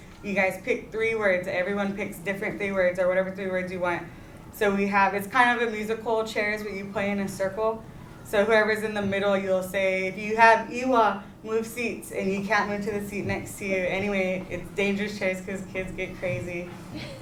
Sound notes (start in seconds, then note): 10.7 non-english